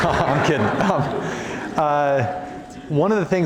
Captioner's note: laughter